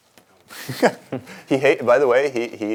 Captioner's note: laughing